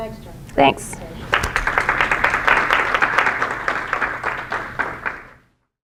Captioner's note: audience clapping